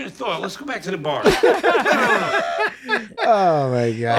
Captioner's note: all laughing softly